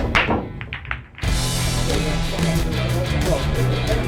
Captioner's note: pool balls clattering; indistinct overlapping chatter